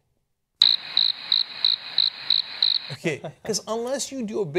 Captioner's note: crickets